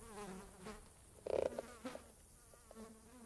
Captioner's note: fly buzzing